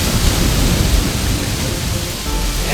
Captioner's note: sound of strong wind in leaves